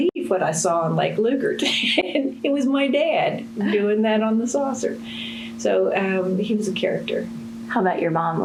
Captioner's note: laughs